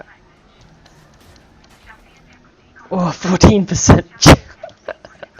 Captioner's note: muffled laugh again, sorry!